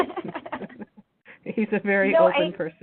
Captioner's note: laughing